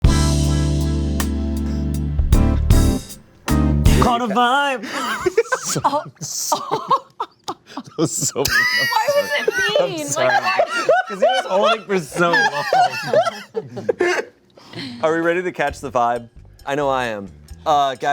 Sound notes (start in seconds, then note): 0.0 romantic music; 5.0 cast laughs